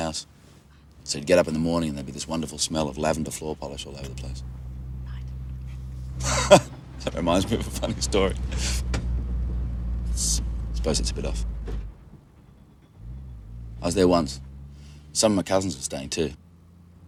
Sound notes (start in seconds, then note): 5.6 laughs